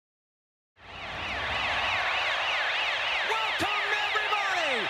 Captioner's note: siren blares